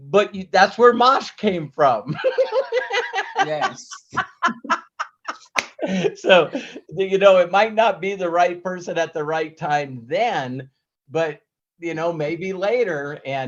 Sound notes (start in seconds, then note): 2.1 laughs